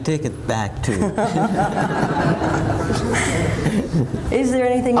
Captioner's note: laughter